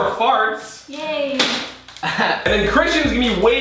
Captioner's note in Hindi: हंसते हुए